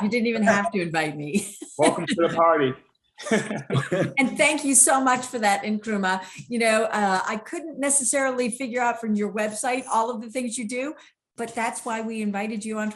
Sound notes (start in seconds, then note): 3.2 laughing; 3.2 speakers laughing